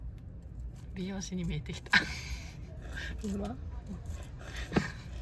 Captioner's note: laughs